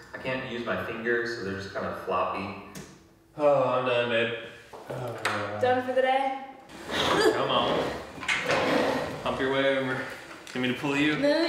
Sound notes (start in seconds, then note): 4.9 sighing